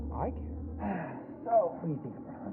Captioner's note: sighs